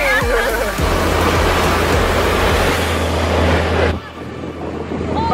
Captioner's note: wind blowing